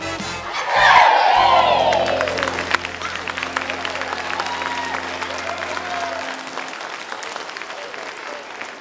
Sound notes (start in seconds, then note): 2.9 audience clapping